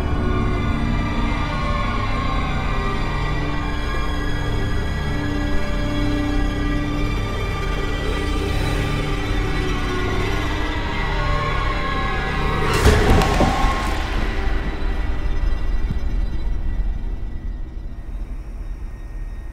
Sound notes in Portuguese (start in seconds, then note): 12.8 pancada na lataria do carro; 13.4 grito